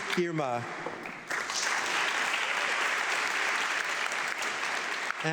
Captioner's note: audience clapping